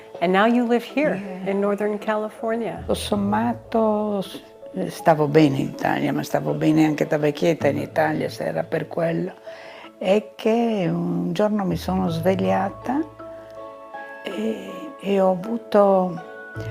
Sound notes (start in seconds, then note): 3.2 speaking in foreign language